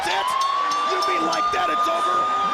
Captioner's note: bell ringing